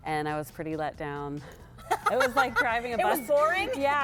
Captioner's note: laughter